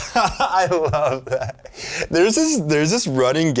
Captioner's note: laughing